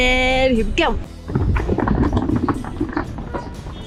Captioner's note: bag rolling; cars honking